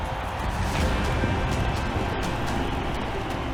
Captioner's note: crowd cheering